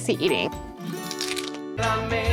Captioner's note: crunches